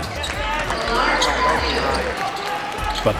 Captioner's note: mixed yelling